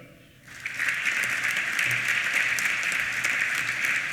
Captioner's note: applause